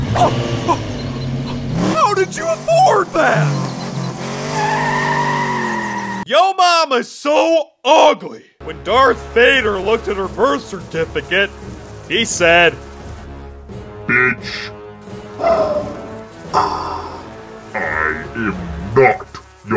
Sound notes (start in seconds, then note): 0.2 whimpers; 4.0 car engine running